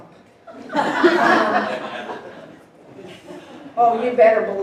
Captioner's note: audience laughing